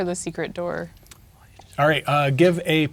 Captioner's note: whispering